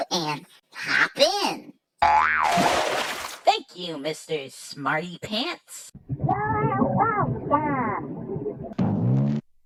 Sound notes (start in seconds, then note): 2.0 boing!; 2.4 splashing